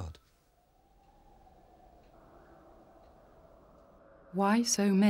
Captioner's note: wind howling